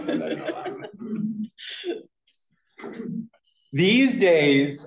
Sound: laughter

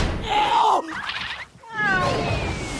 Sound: meow

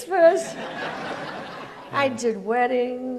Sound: audience laughs

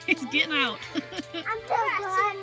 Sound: laughing

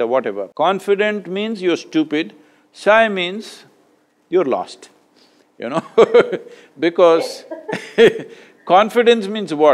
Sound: both laugh

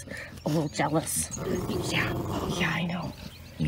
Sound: growl

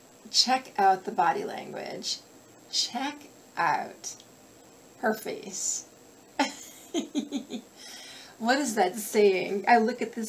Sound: giggle

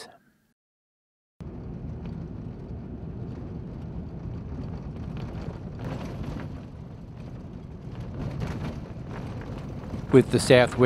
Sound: vehicle sounds

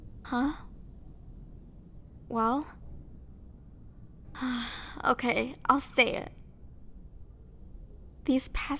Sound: sigh

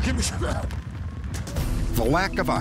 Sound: coughs

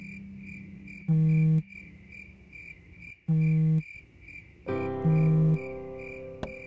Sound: phone vibrating

